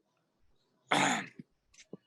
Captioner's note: clears throat